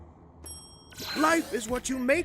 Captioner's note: bell dings